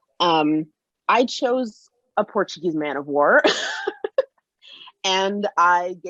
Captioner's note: laughs